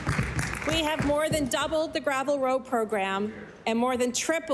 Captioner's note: applause